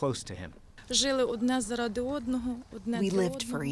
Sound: through translator

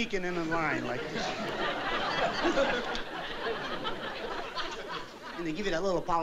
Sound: laughter

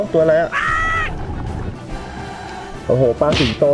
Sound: breathing

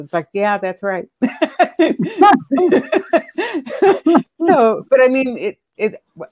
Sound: chuckling

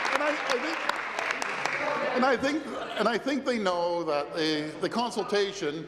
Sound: applause

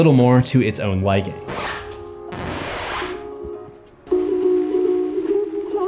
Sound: record scratch

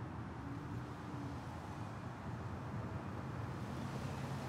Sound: car approaching

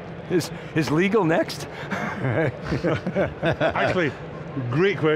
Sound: laughs

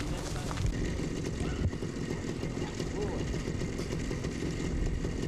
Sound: sound of bike motor running

